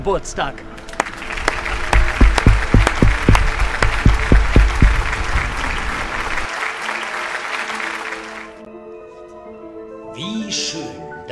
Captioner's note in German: Applaus, Musik